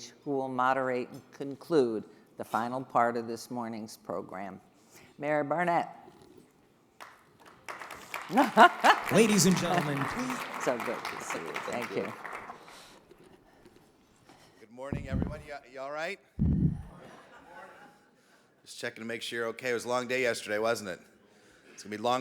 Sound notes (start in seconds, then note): 8.2 laughing; 17.3 audience laughing